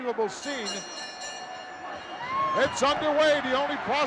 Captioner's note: bell dinging